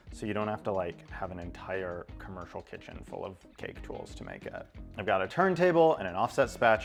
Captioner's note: none